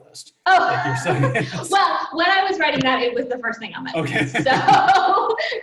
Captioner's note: laughs